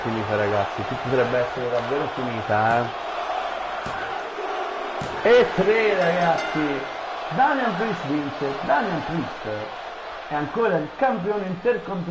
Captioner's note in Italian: Applauso